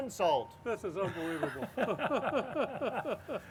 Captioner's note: laughs